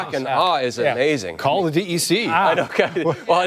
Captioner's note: laughter